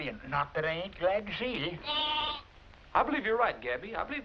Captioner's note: bleating